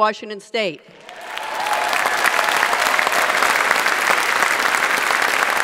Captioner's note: audience applauds